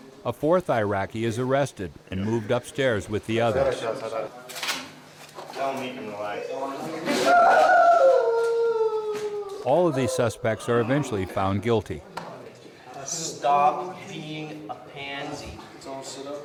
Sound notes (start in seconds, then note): 0.2 voiceover; 7.2 Iraqi man crying; 9.8 voiceover